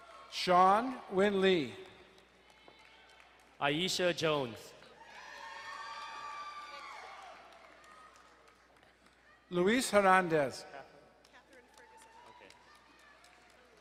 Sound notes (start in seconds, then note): 2.5 distant cheering; 4.8 crowd cheering and applauding